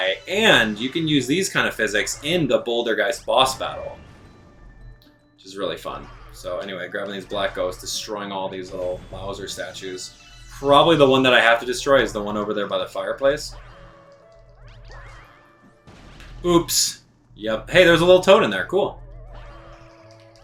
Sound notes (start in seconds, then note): 14.0 gaming sounds; 14.0 instrumental music; 20.2 gaming sounds; 20.2 instrumental music